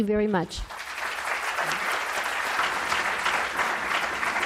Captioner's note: applause